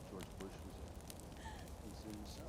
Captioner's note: woman laughs